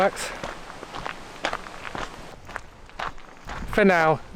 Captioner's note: footsteps